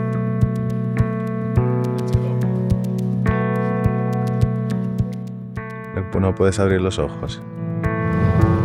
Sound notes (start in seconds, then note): 5.8 in spanish